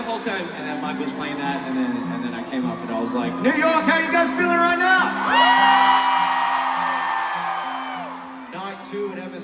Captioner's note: crowd cheering